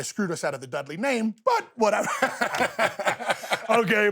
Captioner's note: laughs